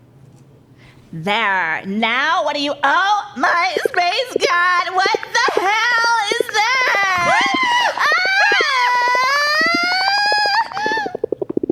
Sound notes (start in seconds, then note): 6.5 screams